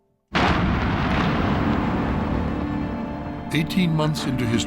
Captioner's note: explosion